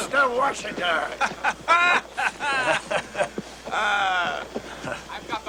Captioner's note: La risa